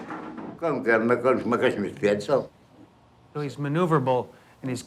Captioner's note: speaks in foreign language